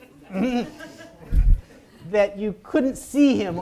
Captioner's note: audience chuckles